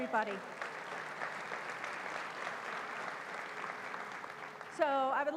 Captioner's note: applause